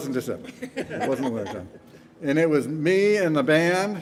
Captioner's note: band members chuckling